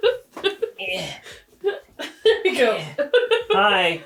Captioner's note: grunts; laughing